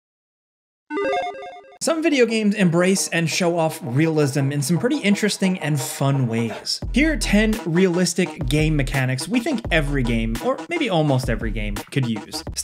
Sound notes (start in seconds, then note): 1.0 electronic video game bleep